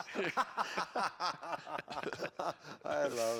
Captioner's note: laughter